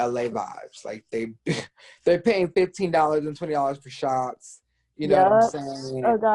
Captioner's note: chuckles